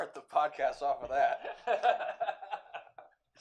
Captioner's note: laughter